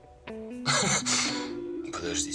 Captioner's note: chuckles